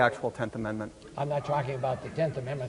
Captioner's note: audience reacts